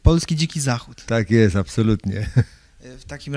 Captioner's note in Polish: śmiech